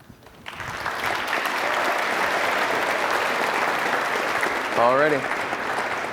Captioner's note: applause